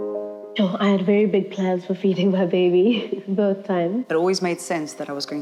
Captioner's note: laugh